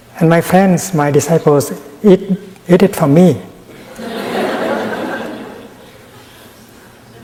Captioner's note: laughter in the audience